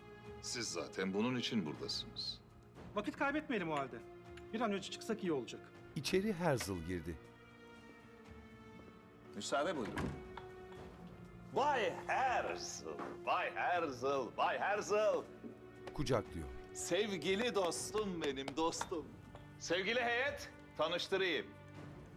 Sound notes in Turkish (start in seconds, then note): 6.0 Kapı açılma sesi; 9.7 Kapı kapanma sesi